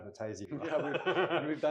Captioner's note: laughing